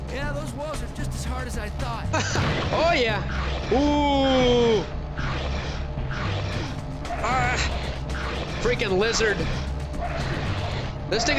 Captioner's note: groaning